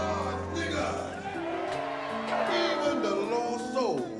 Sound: audience cheers

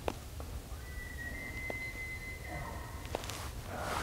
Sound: elk bugling

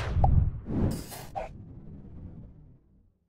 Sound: air whooshing

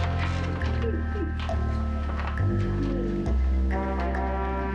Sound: laughing

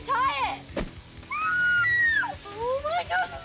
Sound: screaming

